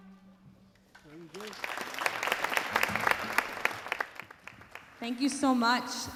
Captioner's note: audience applauding